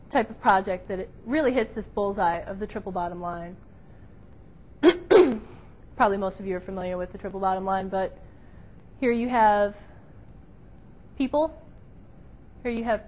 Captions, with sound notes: type of project that it really hits this bullseye of the triple bottom line. (clears throat) Probably most of you're familiar with the triple bottom line, but here you have people, here you have profit,